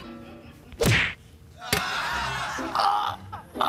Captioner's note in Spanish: Risas